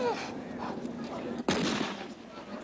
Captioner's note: gunshot